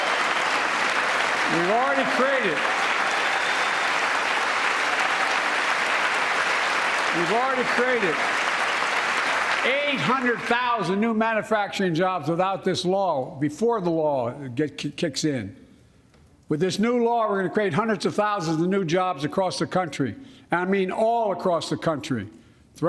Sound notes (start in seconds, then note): 6.0 applause